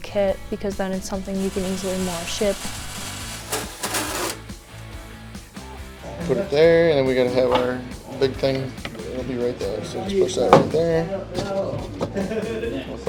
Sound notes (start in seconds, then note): 2.8 metal clanking; 2.8 saw buzzing